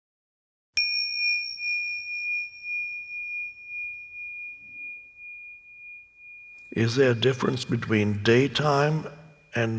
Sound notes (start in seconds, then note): 1.1 chimes